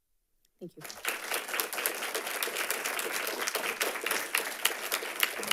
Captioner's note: audience applauding